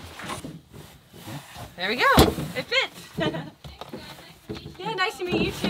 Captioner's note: chuckles